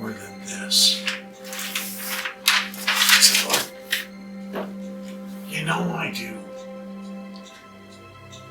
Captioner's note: page turning